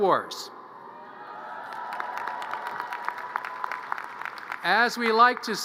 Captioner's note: audience cheers and applause